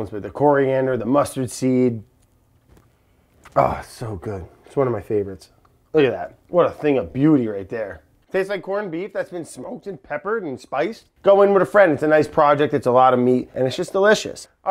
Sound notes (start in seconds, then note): 2.3 lightly inhaling